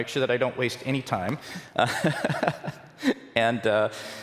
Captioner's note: laughter